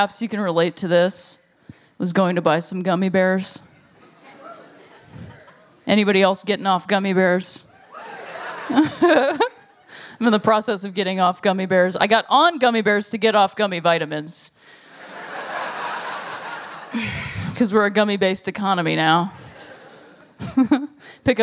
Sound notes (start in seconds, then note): 7.8 laughter; 15.0 laughter; 19.4 laughter